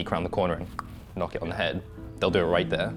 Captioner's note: pops